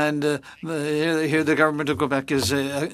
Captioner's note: speaking French